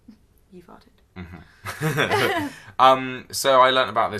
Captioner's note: laughs